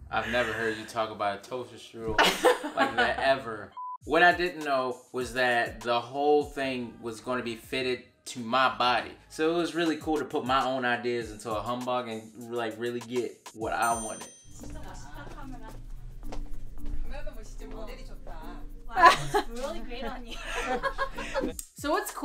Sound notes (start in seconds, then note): 15.1 woman speaking Korean; 20.0 laughing